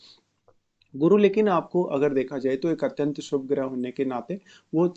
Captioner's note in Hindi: नाक से की जाने वाली आवाज़